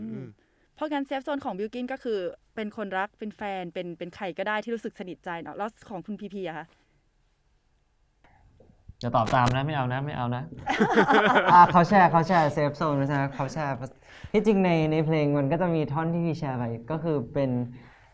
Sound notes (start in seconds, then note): 10.6 laugh